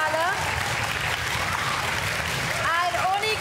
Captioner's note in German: Jubel und Applaus